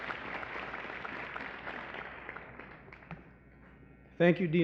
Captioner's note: applause